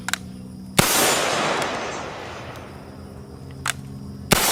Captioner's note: gun firing